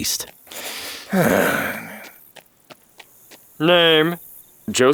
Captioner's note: Julius sighing